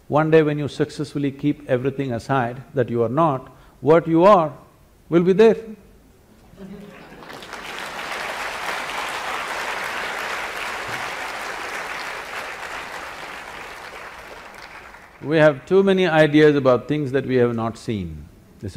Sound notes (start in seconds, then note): 11.1 applause